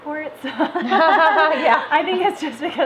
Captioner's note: laugh; laughs